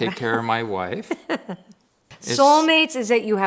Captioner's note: laughs